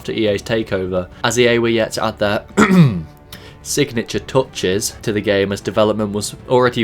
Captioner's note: clears throat